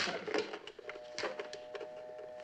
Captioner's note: dial tone buzzing